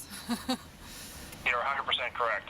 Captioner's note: chuckling